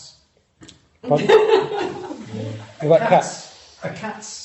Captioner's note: audience laughing